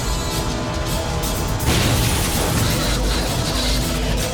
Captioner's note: loud explosion